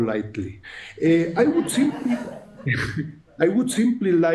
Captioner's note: audience chuckling